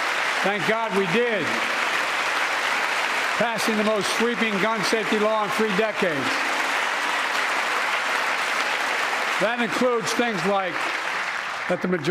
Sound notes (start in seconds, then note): 4.3 applause